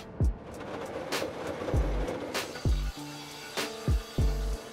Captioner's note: machine vibrating